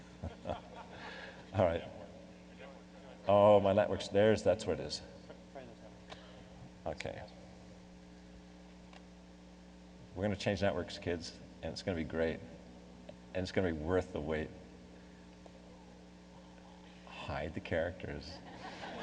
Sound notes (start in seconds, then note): 0.2 laughing; 6.0 voiceover